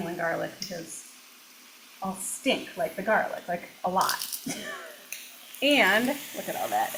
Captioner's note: chuckles